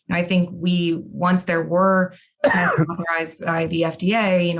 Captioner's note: coughs